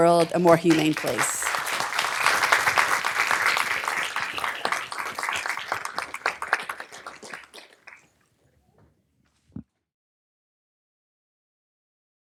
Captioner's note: applause